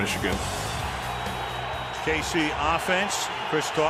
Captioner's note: cheering